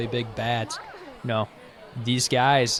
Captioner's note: indistinct chatter